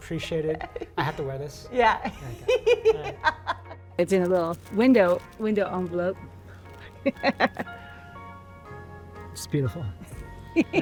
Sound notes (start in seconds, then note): 1.9 laughing; 7.0 laughing